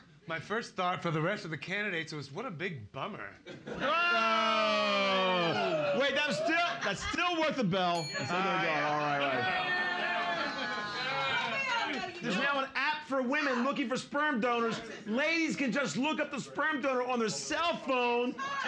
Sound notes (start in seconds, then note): 3.6 loudly laughing; 7.9 bell softly chimes; 8.4 audience shouting